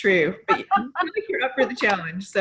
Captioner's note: laughs